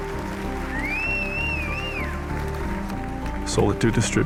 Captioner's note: applause